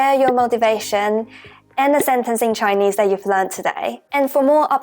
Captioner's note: Mandarin